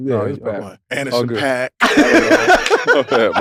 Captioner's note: laugh